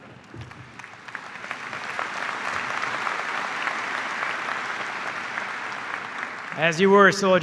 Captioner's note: applause